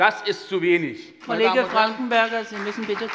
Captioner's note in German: Beifall bei der SPD